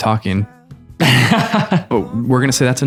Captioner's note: laughter